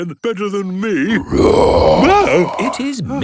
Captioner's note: loud roar